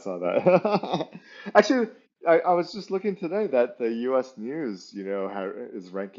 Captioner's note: laughs